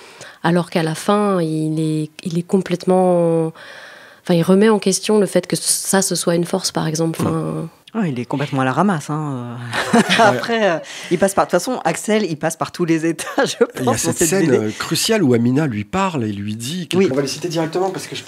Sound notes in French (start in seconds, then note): 13.7 rire